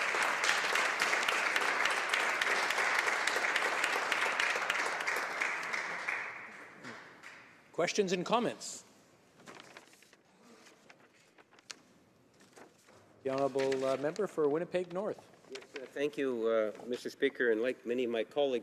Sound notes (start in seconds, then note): 4.4 some Applause